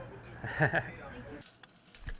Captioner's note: chuckles